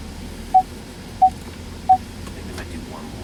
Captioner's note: rear Parking Sensor Beep